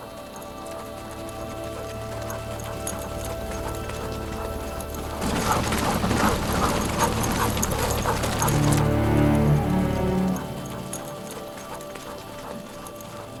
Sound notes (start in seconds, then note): 0.3 horses galloping; 5.7 dogs barking; 10.6 dramatic music